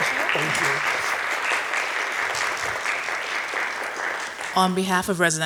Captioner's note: audience applauding